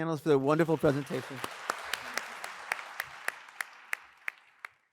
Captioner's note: all clapping